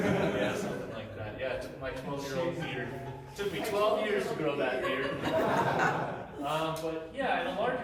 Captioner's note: audience laughter; laughter